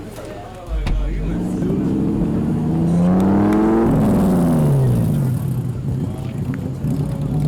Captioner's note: engine revs out